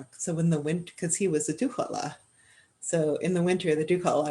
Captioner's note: speaking Indigenous language; speaking Indigenous language